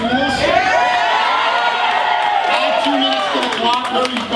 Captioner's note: cheering